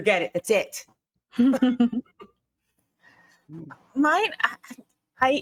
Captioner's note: giggling